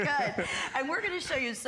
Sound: laughter

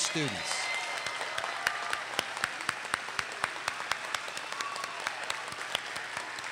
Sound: audience cheers and applauds

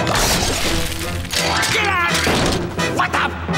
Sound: screaming

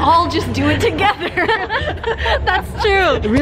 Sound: laughing

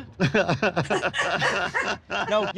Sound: laughs

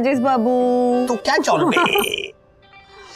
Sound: laughs

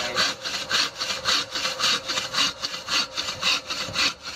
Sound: guide speaking Thai; saw scraping

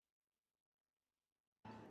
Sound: none

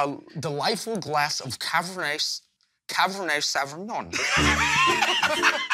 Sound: slurs excessively; laughter

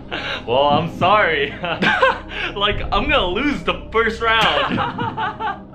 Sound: laughs; laughs again; laughing

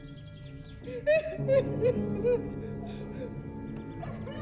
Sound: Kitty crying

